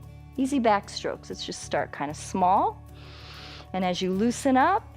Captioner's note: inhales